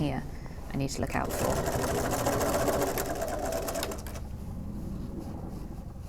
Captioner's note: sewing